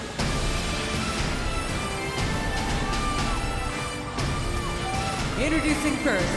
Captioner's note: dramatic music continues; crowd cheering